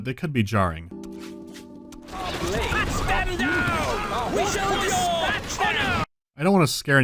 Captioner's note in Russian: звуковая дорожка мирной жизни внезапно сменяется звуками битвы